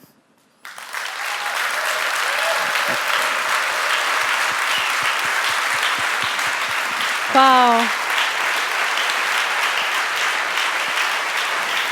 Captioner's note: applause